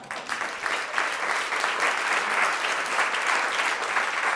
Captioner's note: applause